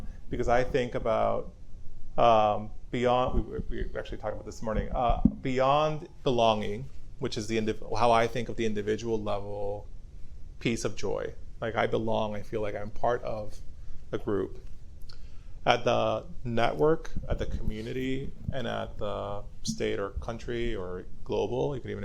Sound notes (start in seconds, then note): none